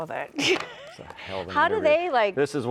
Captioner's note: chuckles